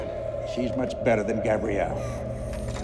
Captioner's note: girl whimpering